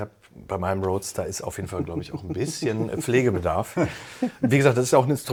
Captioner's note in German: gelächter